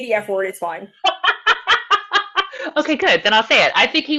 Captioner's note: laughing